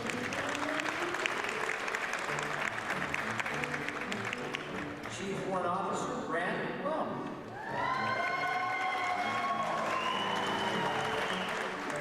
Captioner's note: applause and whistling